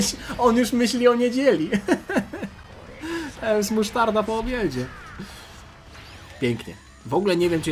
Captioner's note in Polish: śmiech